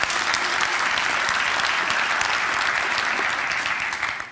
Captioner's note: applause